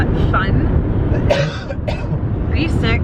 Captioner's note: coughs